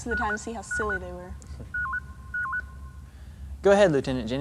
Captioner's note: intercom signal